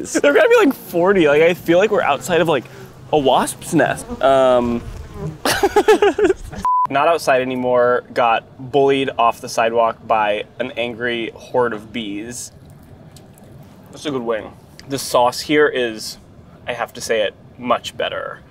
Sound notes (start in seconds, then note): 4.6 bees buzzing; 5.4 laughing; 5.7 screen blaring